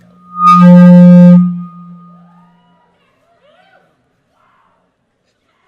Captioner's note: speaker feedback booming